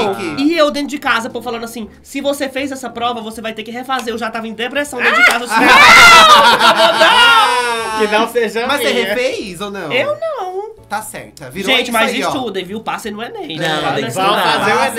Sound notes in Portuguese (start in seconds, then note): 5.5 risos